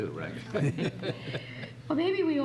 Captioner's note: laughs